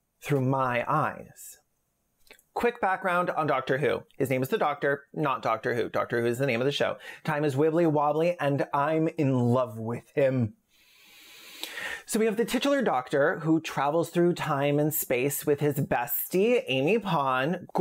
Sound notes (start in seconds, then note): 10.8 intense Fslur-y Inhale